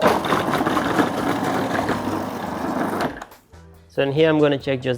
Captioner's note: food processor grinds